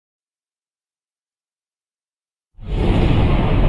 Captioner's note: silence